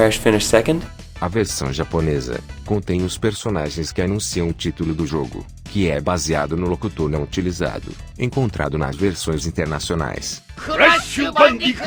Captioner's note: japanese Audio